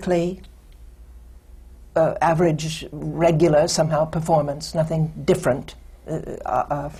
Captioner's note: none